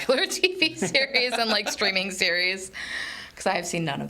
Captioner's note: laughs